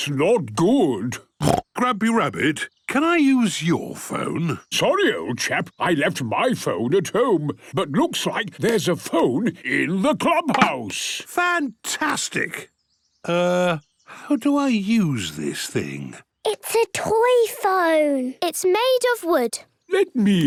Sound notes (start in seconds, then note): 1.4 snorts